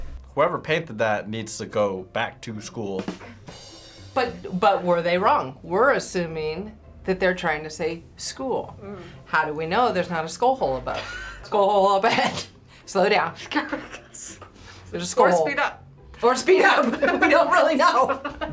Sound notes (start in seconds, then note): 3.0 rim shot; 11.1 React chuckles